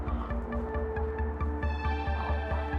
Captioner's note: Hilda gasps